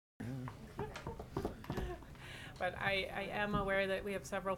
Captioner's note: people chattering